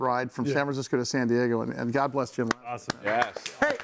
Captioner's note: claps